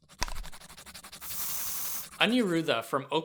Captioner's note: pencil coloring; spray paint